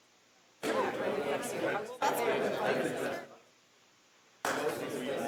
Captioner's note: people chattering